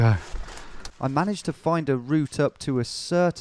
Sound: voiceover

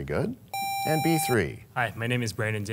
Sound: sound of a buzzer

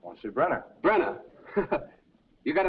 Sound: laughs

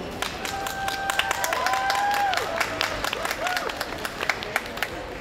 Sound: applause, cheering

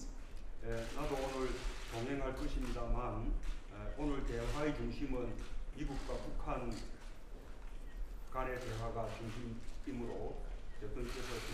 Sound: speaking Korean

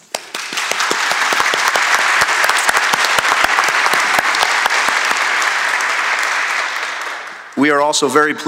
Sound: applause

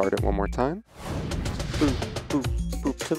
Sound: air whooshing

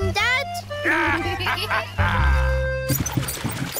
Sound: both giggle

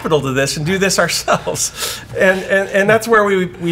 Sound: both laugh

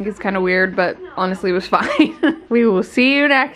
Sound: laughs

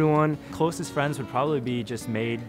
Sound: voiceover

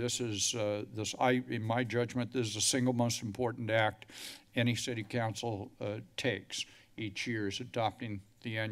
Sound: none

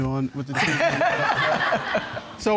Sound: all laugh

